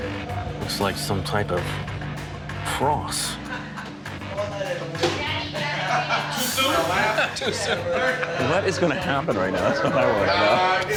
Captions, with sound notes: Looks like some type of cross. [BAR CHATTER] What is going to happen right now? That's what I want to know.